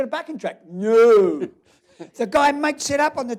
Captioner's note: laughs